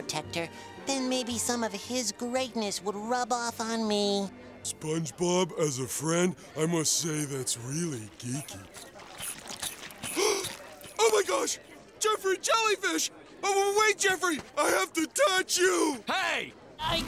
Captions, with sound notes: then maybe some of his greatness would rub off on me. SpongeBob, as a friend, I must say, that's really geeky. [gasps] Oh my gosh, Jeffrey Jellyfish! Oh, wait Jeffrey, I have to touch you! Hey!